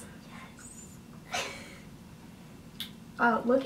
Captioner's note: laughs